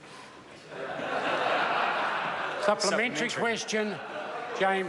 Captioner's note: members laugh